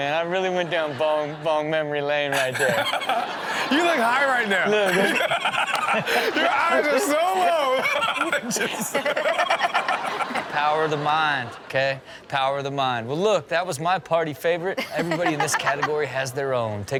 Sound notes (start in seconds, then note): 2.9 audience laughing; 3.8 laughing; 7.6 laughing